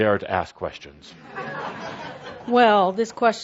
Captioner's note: laughter